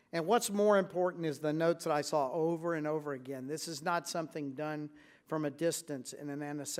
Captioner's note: none